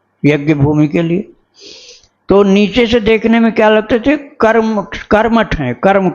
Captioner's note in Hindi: नाक से की जाने वाली आवाज़